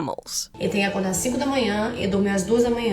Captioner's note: speaking Portuguese